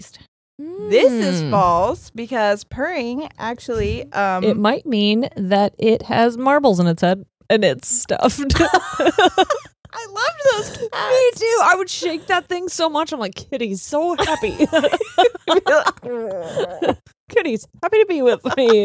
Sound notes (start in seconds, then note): 8.6 both laughing; 14.2 both laughing; 17.4 laughing